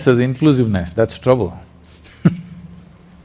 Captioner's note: laughs